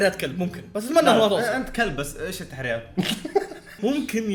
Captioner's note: laughs